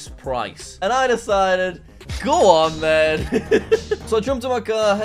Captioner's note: chuckles